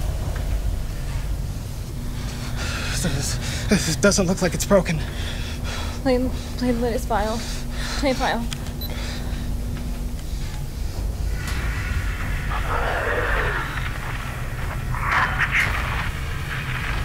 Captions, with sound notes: This doesn't look like it's broken. - Play, play the next file. Play file. (growling)